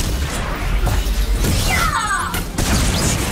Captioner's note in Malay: berteriak